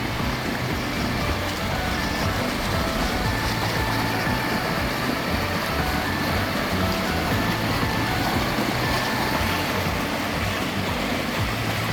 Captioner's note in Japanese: 川の流れる音